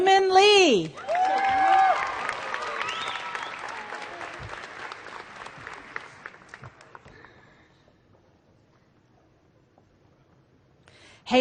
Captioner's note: applause